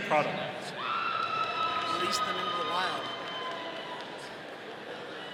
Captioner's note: audience cheering